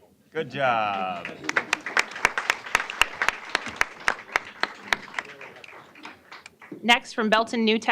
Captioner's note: applause